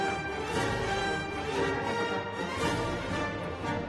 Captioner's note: cheers and applause